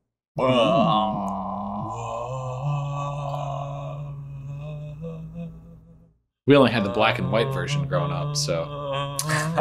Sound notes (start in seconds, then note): 0.4 both groaning